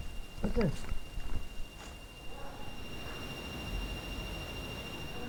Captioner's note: REM Pods beeping